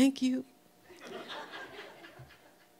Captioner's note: audience laughing